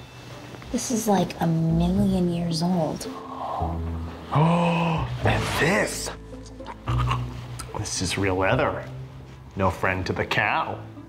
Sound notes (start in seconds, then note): 4.1 gasp; 6.6 gags